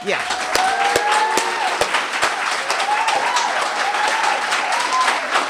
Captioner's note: audience cheering and applauding